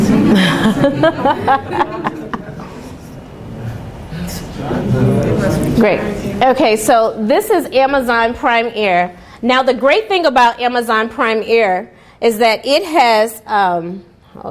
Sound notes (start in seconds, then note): 0.1 laughing; 3.0 students murmuring